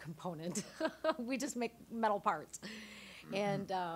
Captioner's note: laughing